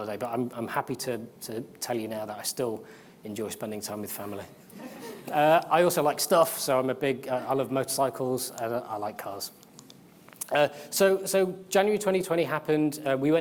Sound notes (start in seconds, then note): 4.8 audience laughs